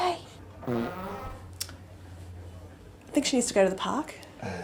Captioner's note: dog farts